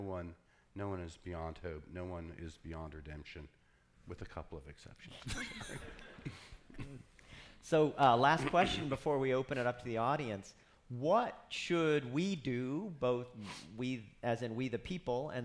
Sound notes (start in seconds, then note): 5.2 laughing